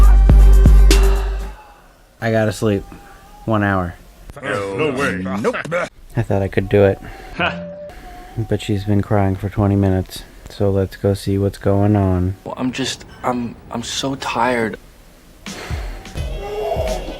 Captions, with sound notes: *sigh* I gotta sleep. One hour. No. No way. Nope. I thought I could do it. "Ha!" But she's been crying for 20 minutes. So let's go see what's going on. "I'm just. I'm just so tired."